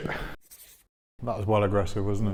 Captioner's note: pencil scribbles